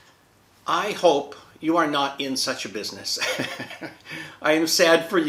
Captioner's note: laughs